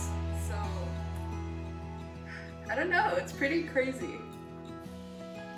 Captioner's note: sigh